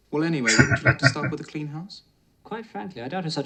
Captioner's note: chuckling